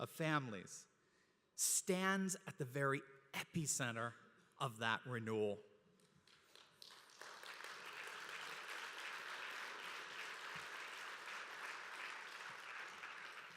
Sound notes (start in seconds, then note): 6.2 applause